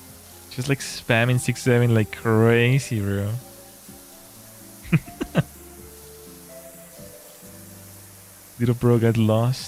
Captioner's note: laughter